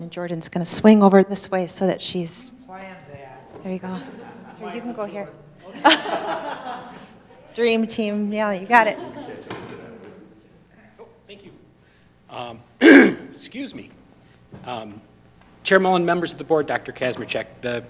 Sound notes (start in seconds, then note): 5.7 laughing; 12.8 coughs